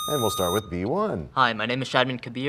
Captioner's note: sound of a buzzer